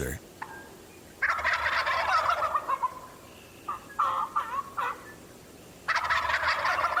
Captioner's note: imitating gobbling; turkeys gobbling mildly